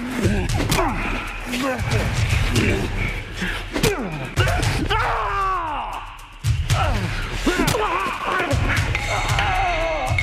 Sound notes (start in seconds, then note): 4.8 Shepherd screams